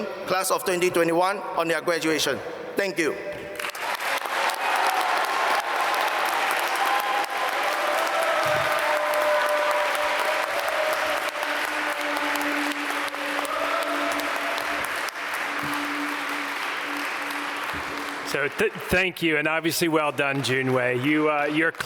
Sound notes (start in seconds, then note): 4.0 applause